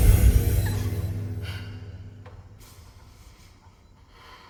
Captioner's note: women crying